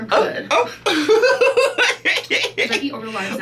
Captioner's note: laughs